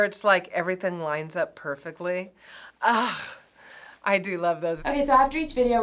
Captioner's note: sighs